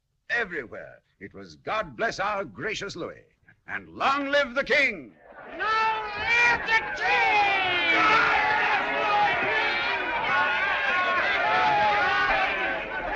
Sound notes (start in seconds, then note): 8.0 جمهور يهتف